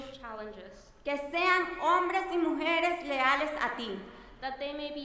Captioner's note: speaking in foreign language